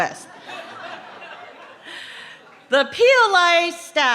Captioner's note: laughing